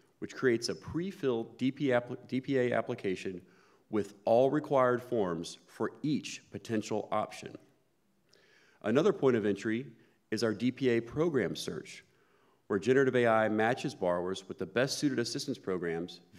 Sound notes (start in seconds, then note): none